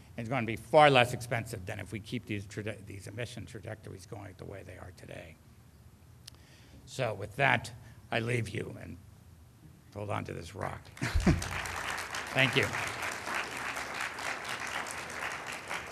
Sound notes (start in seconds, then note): 10.9 audience clapping; 11.0 laughs